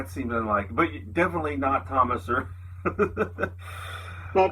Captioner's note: laughs